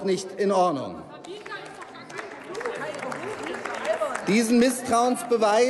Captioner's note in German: Applaus